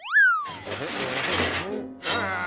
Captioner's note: humming